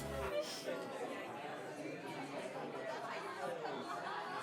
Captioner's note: chatter